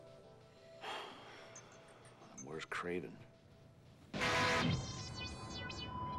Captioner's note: puffs